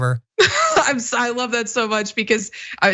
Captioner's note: laugh